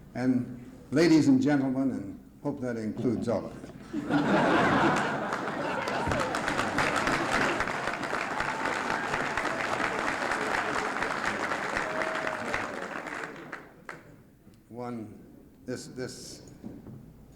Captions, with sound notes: And ladies and gentlemen, and, hope that includes all. [Laughter, applause] One, this, this,